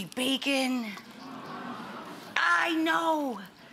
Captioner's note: audience oohing